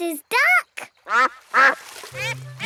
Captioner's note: quacks